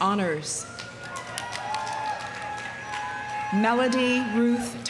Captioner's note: audience cheering; audience applauding